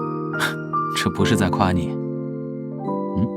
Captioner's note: scoffs